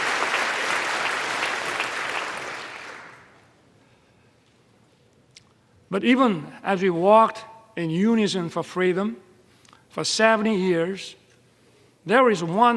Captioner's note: applause